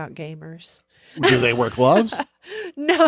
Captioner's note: chuckles